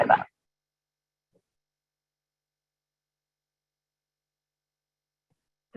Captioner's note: silence